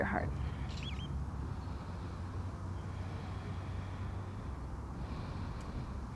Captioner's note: blows out breath; takes deep breath